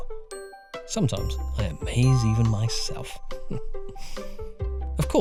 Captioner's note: smug chuckle